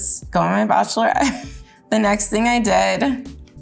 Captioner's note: Jordyn giggles